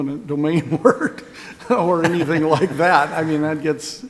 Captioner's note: laughing